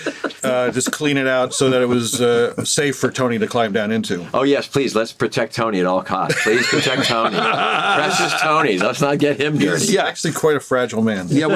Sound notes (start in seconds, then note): 6.2 all laugh